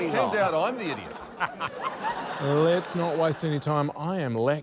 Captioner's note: laughter